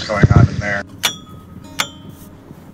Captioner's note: clanking sound